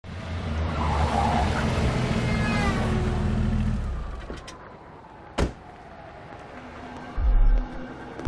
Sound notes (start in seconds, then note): 0.4 car screeching; 5.5 door closing